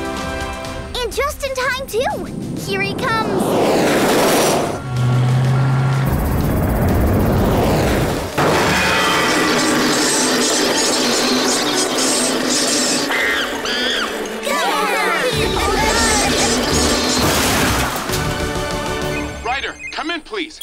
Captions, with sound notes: And just in time too, here he comes! [monkey noises] [cheering] Ryder, come in please.